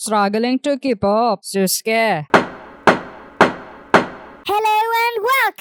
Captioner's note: knocking